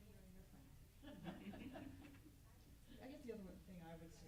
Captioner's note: group laughs